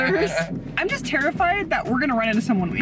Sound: laughing

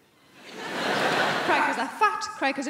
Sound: crowd laughing

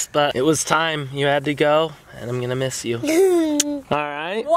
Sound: kiss

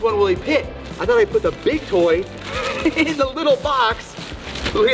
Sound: laughs

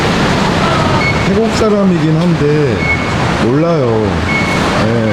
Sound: laughing

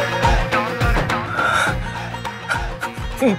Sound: laughing

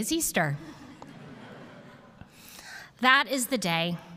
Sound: congregation chuckles

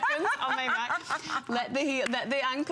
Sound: laughter

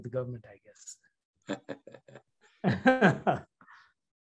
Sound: chuckles

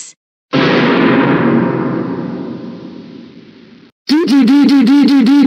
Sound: goanimate scary sound

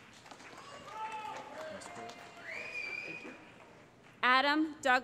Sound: cheering

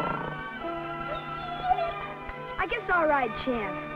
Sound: dog whines

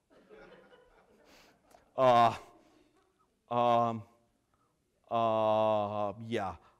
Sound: laughter

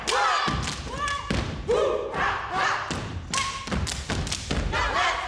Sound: group yells

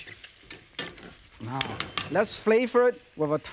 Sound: wok clinking

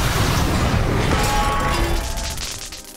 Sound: thudding

